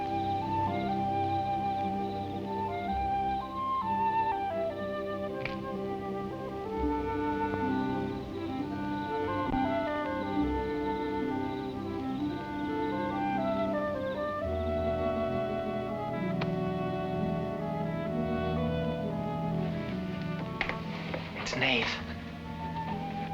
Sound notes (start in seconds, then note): 0.1 whimsical orchestral music; 4.9 branch creaking